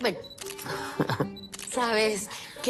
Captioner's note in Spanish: Risas